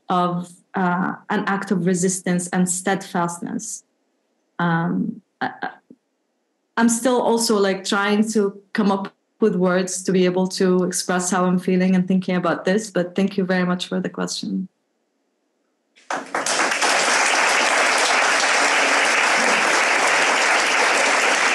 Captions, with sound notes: of an act of resistance and steadfastness. I'm still also like trying to come up with words to be able to express how I'm feeling and thinking about this. But thank you very much for the question. (audience applauds)